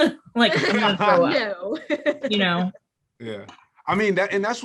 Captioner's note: laughs